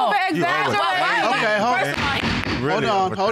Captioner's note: gavel thuds